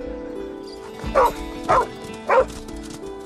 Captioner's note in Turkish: Köpek havlıyor